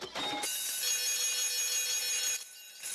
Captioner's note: ringing